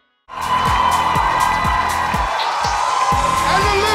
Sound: audience cheers

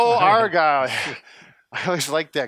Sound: chuckles

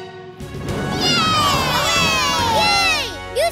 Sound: cheering

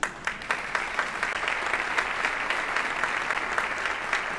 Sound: audience applauding

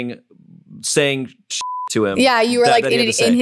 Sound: beep

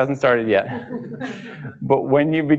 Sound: laughing

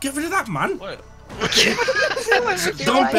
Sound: everyone laughing

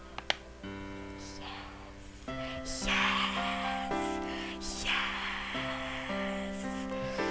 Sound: whispering

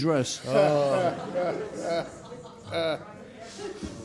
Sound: all laughing

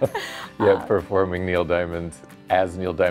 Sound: laughs

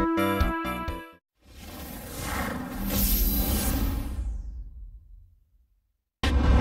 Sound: epic digital sounds; snippeted dramatic sounds

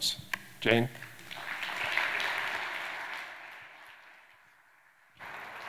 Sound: audience applauding

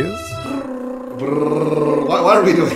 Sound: imitates drumsticks tapping

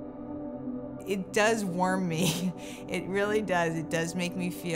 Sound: laughs

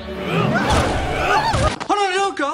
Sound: distinctive fox screaming

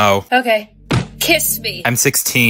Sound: desk slam

